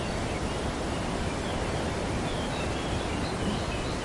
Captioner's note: birds chirping